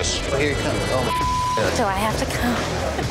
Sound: beeping

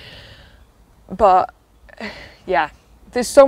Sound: sigh

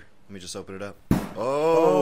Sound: thud

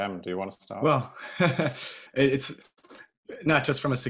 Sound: chuckles

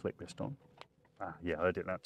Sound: connector clicks

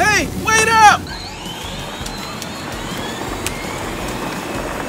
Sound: engines purring

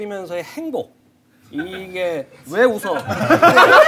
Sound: laughter of staff

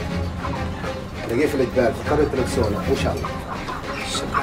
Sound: Arabic spoken audio

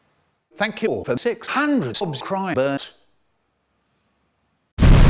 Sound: boom

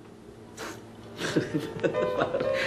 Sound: laughs

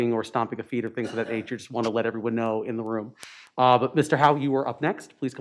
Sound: audio cutting in and out

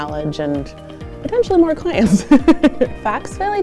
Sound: giggles

